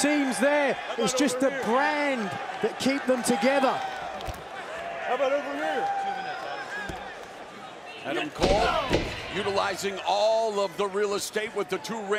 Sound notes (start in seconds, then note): 5.2 crowd chatter